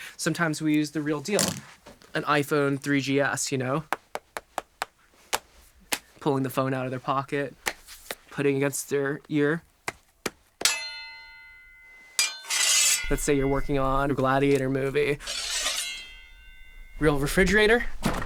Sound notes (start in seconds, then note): 3.7 tap tap tap tap tap; 5.2 smacks phone twice; 10.6 smack smack ting; 17.9 opens and shuts the door